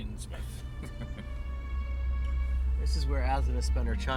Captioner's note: chuckling